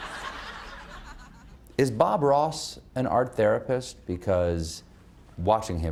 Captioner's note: laughter